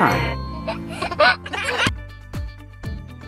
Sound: giggling; upbeat music plays

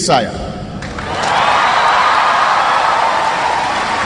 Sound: non-english speech; cheering

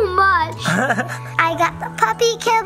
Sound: Barbie Malibu laughing

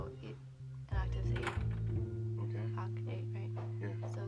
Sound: door opens

